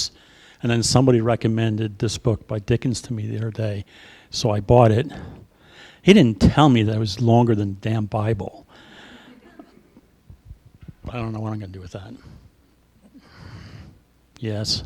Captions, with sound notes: And then somebody recommended this book by Dickens to me the other day, so I bought it. He didn't tell me that it was longer than the damn Bible, [Laughter] but I don't know what I'm gonna do with that. Yes?